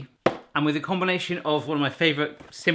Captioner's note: none